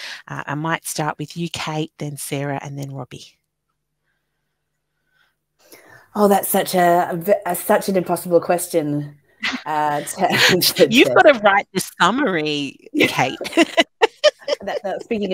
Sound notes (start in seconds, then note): 9.8 laughing; 13.0 chuckling